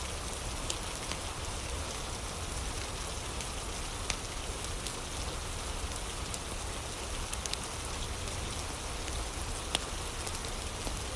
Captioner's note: fire crackling